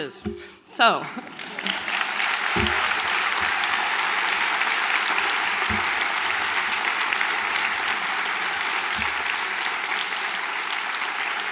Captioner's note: applause